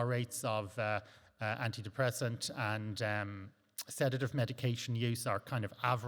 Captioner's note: lip smack